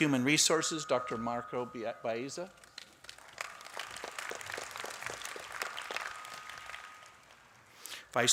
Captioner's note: applause